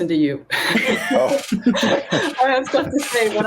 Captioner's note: laughter